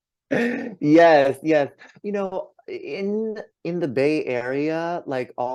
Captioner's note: laughs